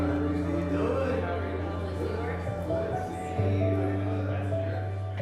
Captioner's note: crowd murmuring; soft piano music